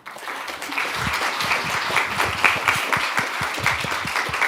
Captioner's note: audience applauds; laughs